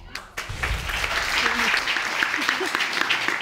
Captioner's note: audience applauds